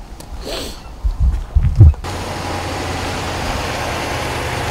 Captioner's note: car engine rumbling